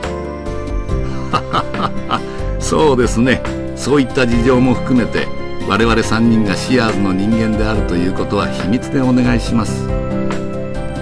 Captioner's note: laughed